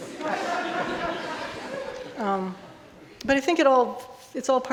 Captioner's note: audience laughing